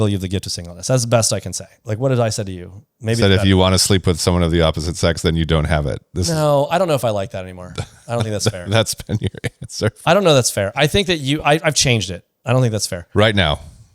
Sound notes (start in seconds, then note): 7.6 laughs